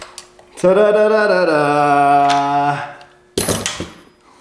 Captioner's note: harmonic humming